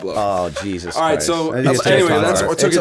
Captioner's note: chuckle